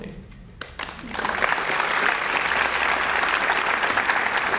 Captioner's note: audience applauds